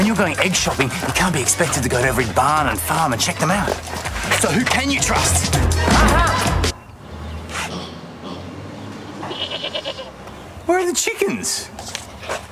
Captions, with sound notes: ..but when you're going egg-shopping, you can't be expected to go to every barn and farm and check them out. So who can you trust? Ah-ha! (Bleating) Where are the chickens?